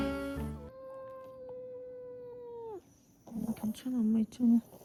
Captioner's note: Hongcho crying 😢